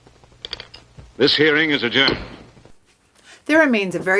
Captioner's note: gavel banging